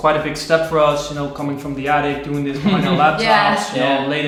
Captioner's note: laughing